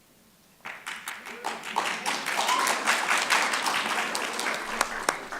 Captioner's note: audience clapping